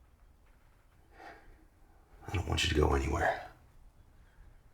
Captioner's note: sighs